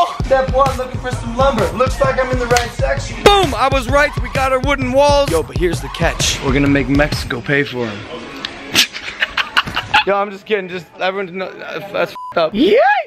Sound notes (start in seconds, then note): 8.7 laughing